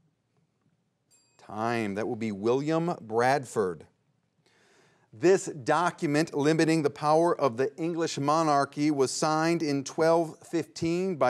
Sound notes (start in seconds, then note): 1.1 bell dings